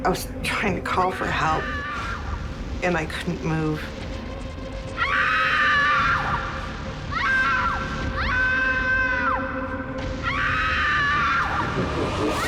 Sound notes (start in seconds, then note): 4.8 screaming